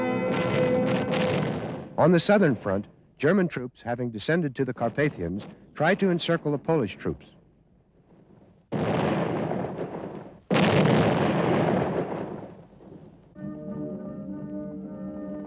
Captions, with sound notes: On the southern front, German troops, having descended to the Carpathians, try to encircle the Polish troops. (explosions)